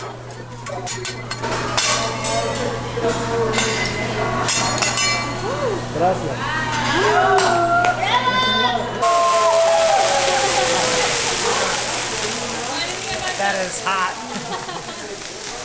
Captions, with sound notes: Wow! [Hooting and Hollering for the sizzling flames] That is hot! [Laughs]